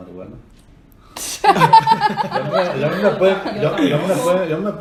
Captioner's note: everyone Laughs